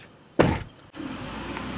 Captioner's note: door closing; engine revving